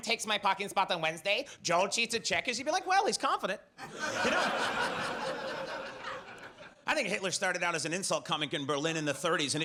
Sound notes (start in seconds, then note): 3.8 audience laughs